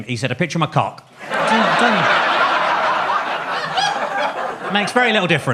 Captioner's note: audience laughs